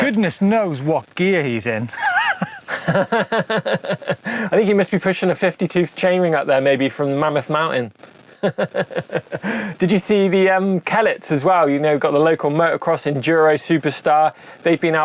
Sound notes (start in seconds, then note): 1.9 laughter; 8.3 laughs